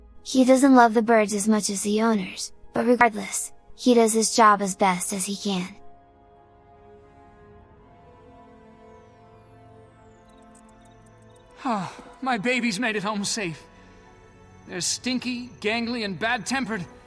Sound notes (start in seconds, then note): 11.5 sigh